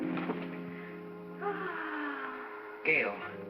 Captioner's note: whimsical music; Gail sighs